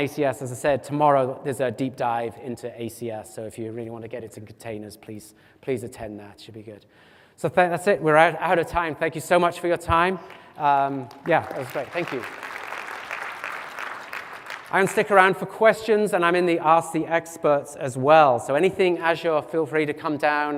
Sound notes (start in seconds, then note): 10.2 applause